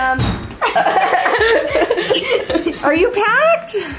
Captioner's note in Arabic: الكل يضحك